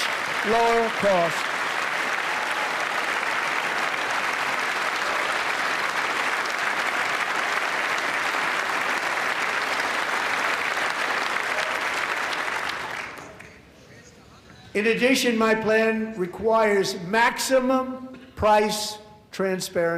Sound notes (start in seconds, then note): 6.7 applause